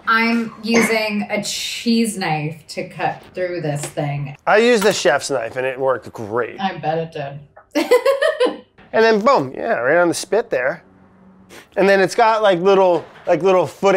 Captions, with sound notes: - I'm using a cheese knife to cut through this thing. - I use the chef's knife and it worked great. - I bet it did [laughs]. - And then boom. Yeah, right on the spit there and then it's got like little footings,